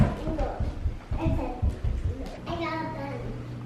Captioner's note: mumbles